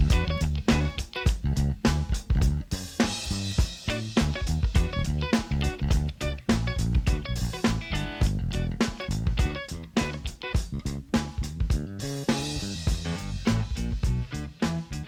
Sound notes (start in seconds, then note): none